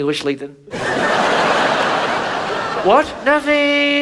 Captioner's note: audience laughs